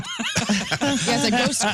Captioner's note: laughing